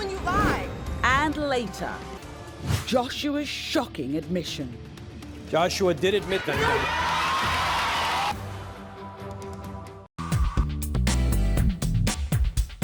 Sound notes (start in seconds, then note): 6.2 audience cheering